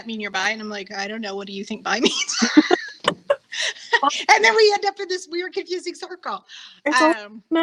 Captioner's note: laughing